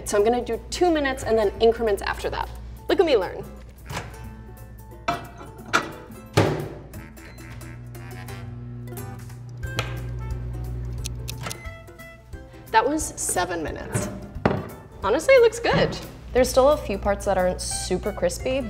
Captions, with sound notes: So I'm gonna do two minutes and then increments after that. Look at me learn. (lighthearted music) (microwave whirring) (lighthearted music) That was seven minutes. Honestly, it looks good. There's still a few parts that aren't super crispy,